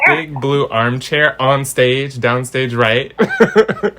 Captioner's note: laughs